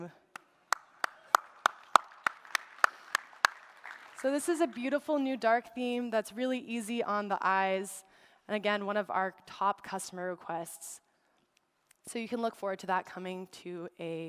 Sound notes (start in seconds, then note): 3.2 applause